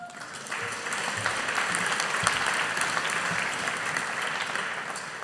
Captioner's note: audience applauding